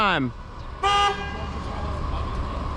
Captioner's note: honnnnk; asshole honks at me